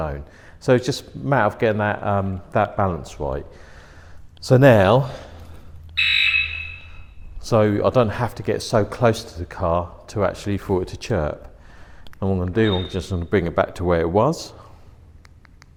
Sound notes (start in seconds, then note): 4.9 beep